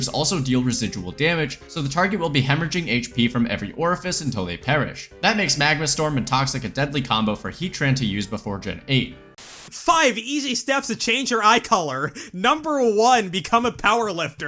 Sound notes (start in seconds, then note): 9.3 static